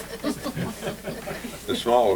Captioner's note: laughter